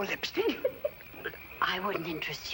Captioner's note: laughing